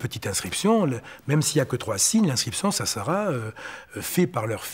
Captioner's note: French spoken audio